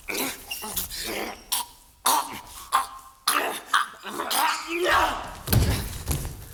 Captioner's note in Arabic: يتسحاق يلهث من أجل الهواء